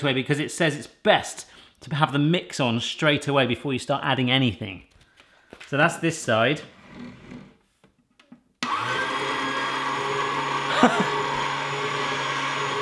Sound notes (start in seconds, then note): 8.6 loud mixer; 10.7 laughs